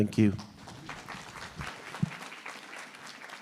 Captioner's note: applause